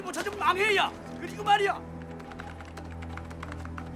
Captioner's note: keyboard Keys Tapping